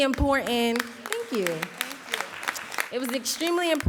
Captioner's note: audience applauding